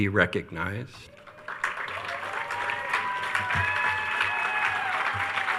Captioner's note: attendees cheering